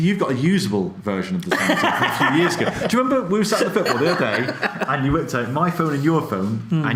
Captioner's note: laughs